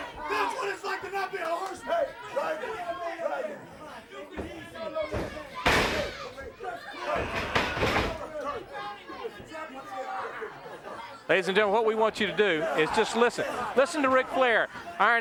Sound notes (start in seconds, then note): 5.2 blows thudding; 5.2 crowd clamoring; 7.5 wrestlers grunting